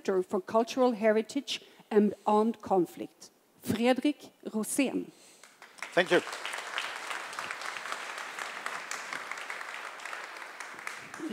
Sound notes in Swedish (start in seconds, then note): 5.4 Applause